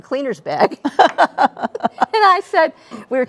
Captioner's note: laughing